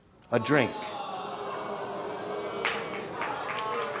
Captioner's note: audience groans and boos; scattered applause